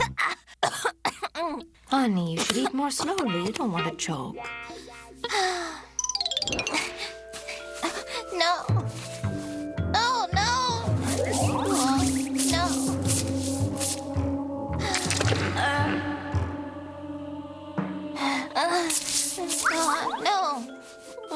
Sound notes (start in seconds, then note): 3.4 sighs